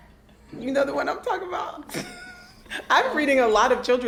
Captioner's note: laughing